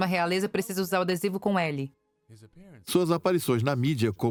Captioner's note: voiceover